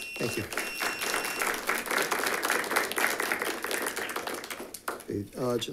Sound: audience applauds

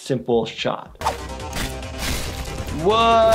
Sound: active music; weapon slashing

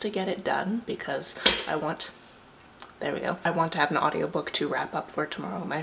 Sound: toaster pop

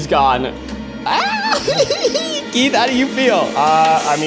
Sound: giggling

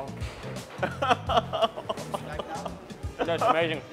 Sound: laughing

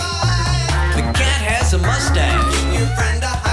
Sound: cat mews

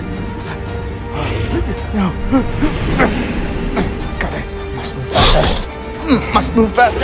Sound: panting and grunting

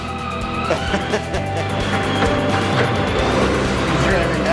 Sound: laughter; upbeat music

